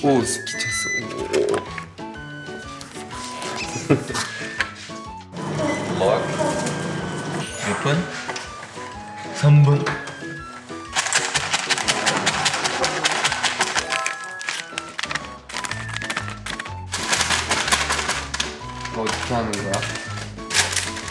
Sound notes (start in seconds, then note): 3.6 haha